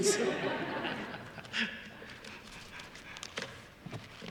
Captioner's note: all laugh